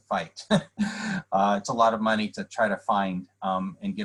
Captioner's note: laughter